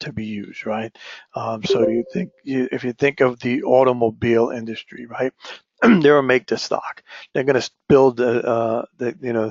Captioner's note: cough